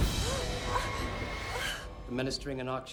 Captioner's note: gasping